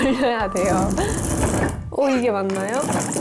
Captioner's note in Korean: 덜컹 덜컹